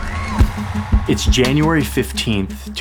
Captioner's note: crowd cheering